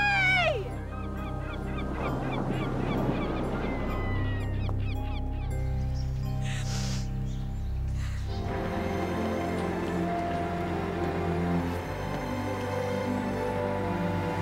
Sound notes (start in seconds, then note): 1.0 seagulls chirping; 10.2 romantic music